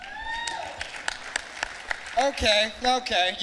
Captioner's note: clapping